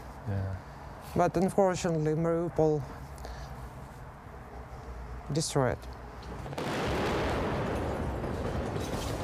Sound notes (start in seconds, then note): 6.4 explosion